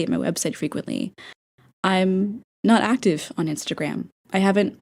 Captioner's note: inhale